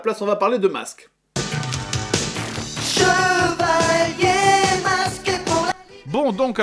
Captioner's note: mask opening